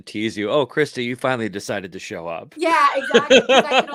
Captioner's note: laughs